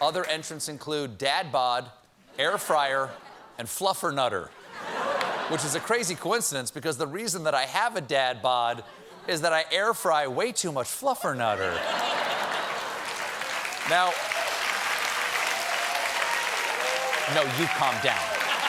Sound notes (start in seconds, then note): 11.9 applause; 13.1 laughter